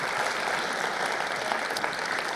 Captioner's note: applause